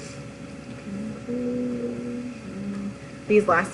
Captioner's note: mumbles the word "conclusion"